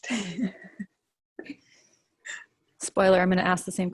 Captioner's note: laughs